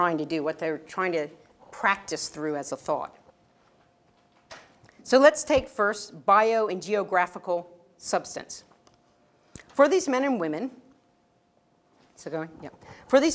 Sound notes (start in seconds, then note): none